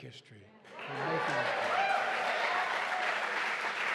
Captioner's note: applause